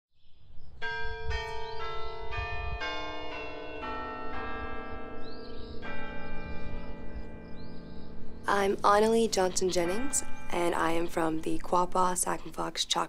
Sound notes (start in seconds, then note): 0.8 bells chiming